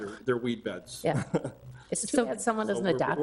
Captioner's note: chuckles